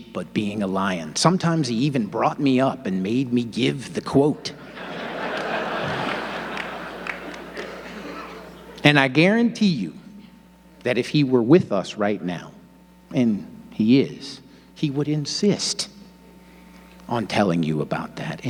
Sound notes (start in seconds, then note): 4.4 audience laughing